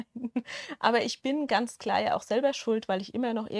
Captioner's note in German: Gelächter